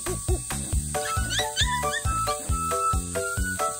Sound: whining too

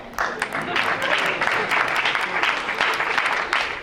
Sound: crowd applauds

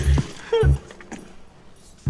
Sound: laughs

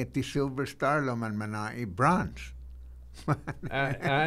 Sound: laughing

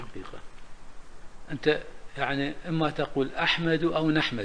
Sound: in Arabic

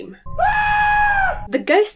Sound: hysterical screaming

